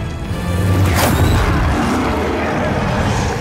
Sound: magic roars

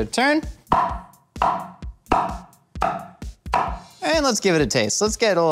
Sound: cleaver hitting chopping board

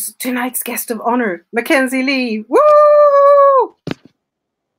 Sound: cheering

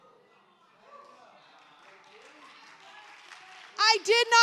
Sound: attendees applauding

